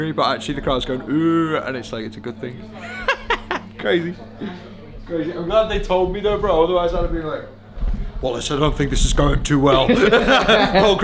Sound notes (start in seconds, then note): 2.8 laughing; 9.8 laughing